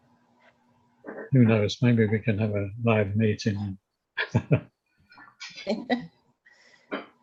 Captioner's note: chuckles